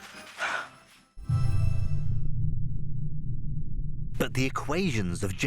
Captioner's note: exhales sharply